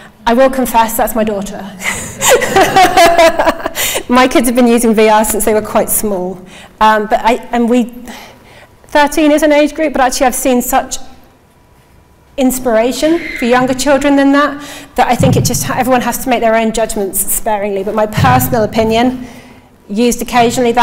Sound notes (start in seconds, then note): 2.2 everyone laughing